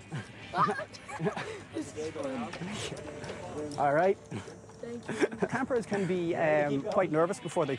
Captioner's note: laughter